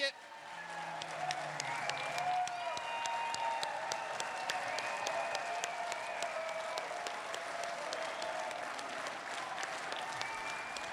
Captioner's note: applause